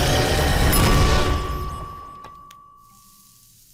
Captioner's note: electricity crackles and whirs; timer bell dings; sizzles